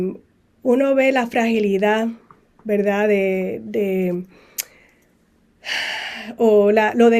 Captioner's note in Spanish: suspiro